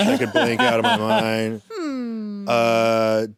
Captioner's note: laughs